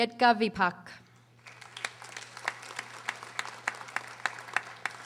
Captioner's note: audience applauding